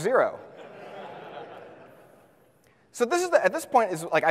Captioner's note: audience laughs